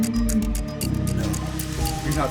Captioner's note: low pitched hoot